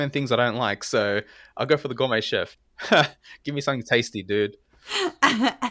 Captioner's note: laugh